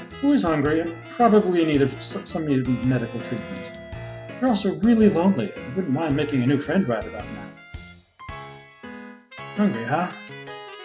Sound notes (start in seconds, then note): none